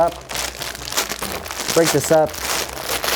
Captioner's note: packet crackling